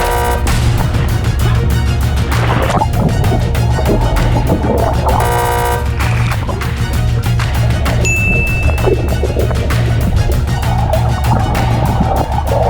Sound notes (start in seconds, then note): 0.0 buzzer ringing; 8.0 bell ringing